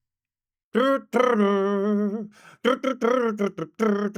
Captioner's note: humming